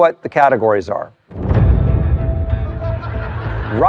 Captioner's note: laughter; tense music